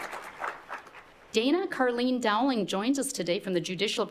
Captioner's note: appluase